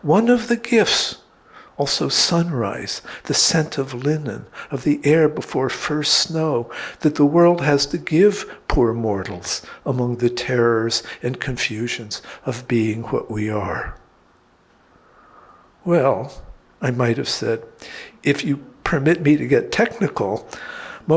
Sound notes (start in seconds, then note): none